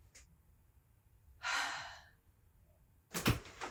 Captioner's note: sighs